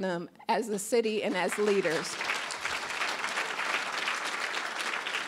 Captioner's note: applause